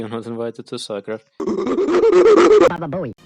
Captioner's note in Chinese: 猿的吼叫.mp3